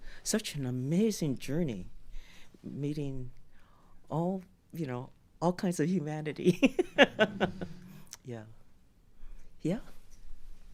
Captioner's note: laughter